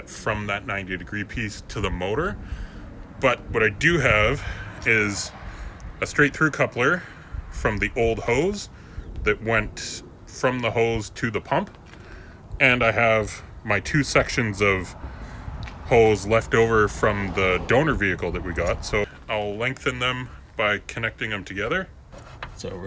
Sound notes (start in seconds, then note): none